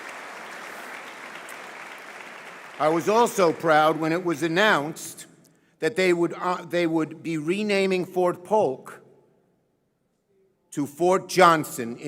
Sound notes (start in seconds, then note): 1.5 applause